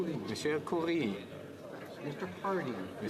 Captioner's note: speaking French